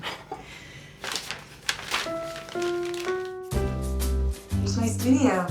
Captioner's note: scoffs